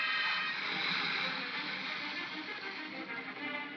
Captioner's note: ominous music; crocodiles hiss; ominous music